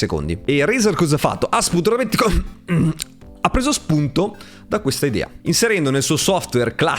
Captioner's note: cough cough